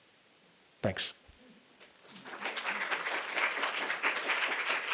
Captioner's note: applause